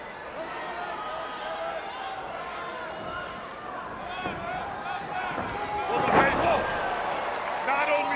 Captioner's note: crowd cheering